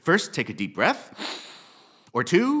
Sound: inhales deeply

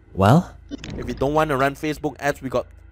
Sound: glitch sound effects

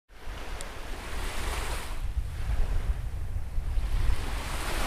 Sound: waves gently breaking

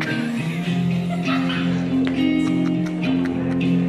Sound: laughs

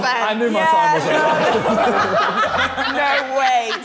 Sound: all laughing

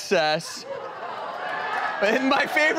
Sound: audience laughs

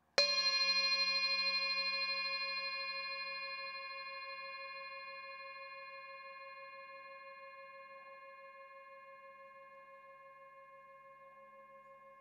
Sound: bell chiming

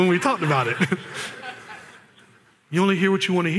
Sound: laughter

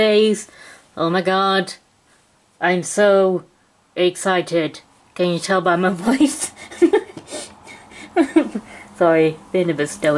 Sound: laughs

